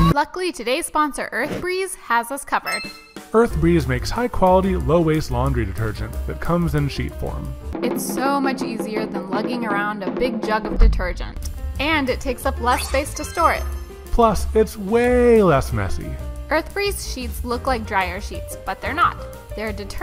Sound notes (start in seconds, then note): 7.3 drums pounding; 12.8 bells chiming